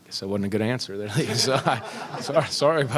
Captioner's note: laughter